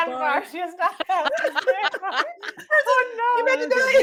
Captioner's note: group laughing